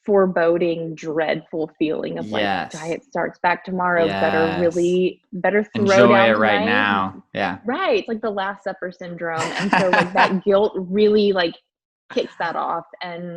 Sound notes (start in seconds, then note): 9.4 laughs